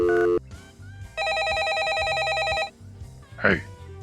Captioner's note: dial tone. dialing; phone ringing